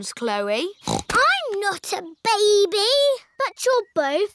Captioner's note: snorts